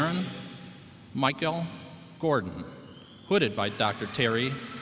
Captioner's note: applause